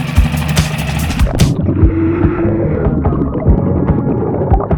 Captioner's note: water burbles